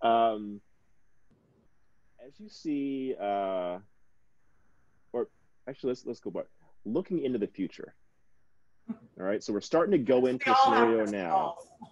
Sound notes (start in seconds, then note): 8.0 snickering